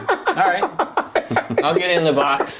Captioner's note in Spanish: risas